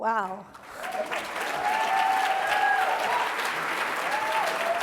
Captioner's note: cheers, applause